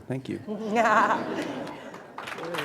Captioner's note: applause